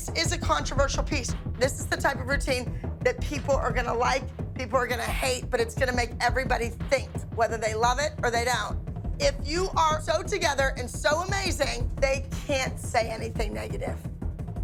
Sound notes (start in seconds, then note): none